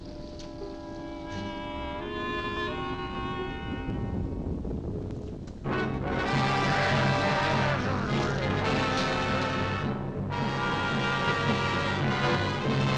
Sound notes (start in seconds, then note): 5.6 dramatic music; 5.7 growling